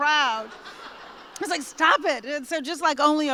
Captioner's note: laughter